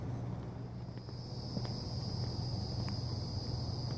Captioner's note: cicada sound